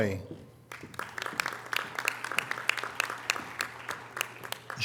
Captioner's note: audience applause